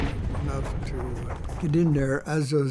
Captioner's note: grenades exploding